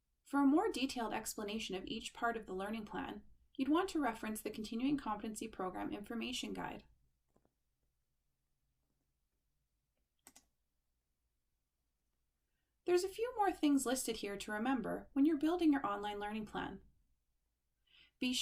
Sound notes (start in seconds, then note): 10.2 click